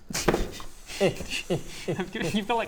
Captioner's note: grunting Scrooge noises